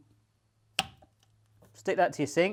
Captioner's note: thud